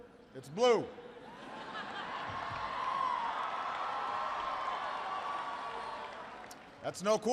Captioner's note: laughter and applause